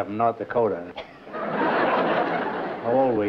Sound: laughter

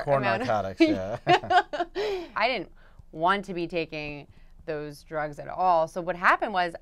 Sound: laugh

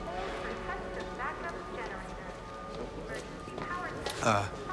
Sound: muffled PA sounds

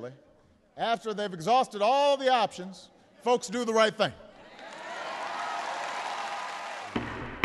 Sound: cheering and applause

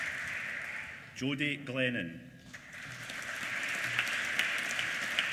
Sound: applause

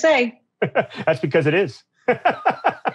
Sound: laughing

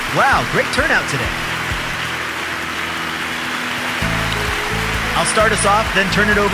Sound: applause

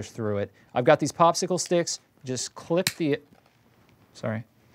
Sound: stick snaps

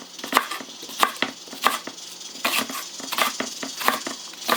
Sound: sound of cooking rice

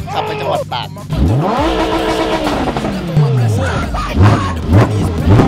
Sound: engine rumbling

